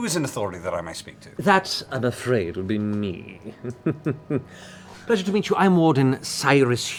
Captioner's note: sly chuckle